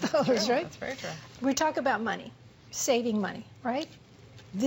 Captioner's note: laughter